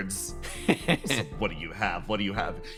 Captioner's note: Etete Laugh